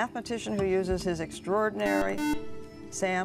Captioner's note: buzzer